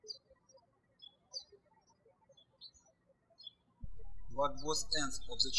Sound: birds chirping

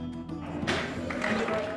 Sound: bangs gavel; cheering

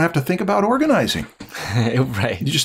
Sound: chuckles

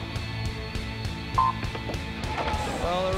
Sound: buzzer beeps

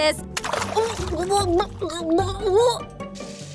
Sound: gurgling sounds

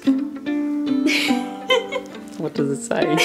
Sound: laughs

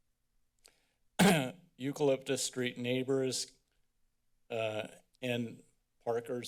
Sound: clear throat

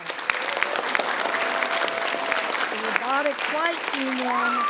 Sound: people clapping

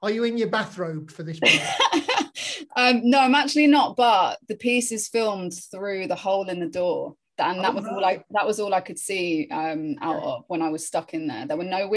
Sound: laughing

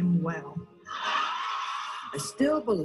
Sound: audience cheering

